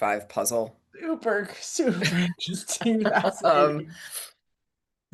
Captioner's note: laughs